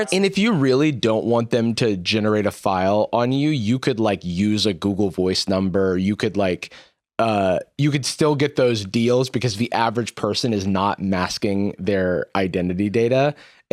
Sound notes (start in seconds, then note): none